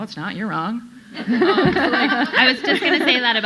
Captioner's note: audience laughing